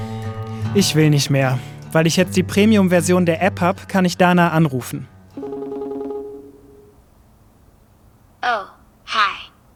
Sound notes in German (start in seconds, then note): 5.4 Klingeln